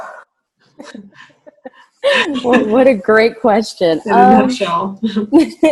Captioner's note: laughing